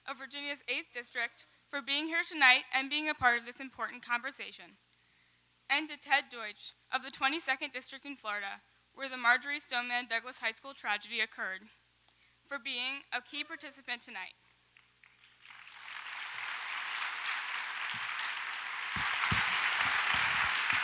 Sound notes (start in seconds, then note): 14.8 audience applauds